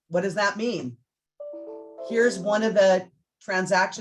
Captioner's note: computer chimes